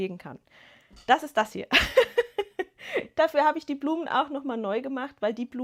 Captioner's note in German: gelächter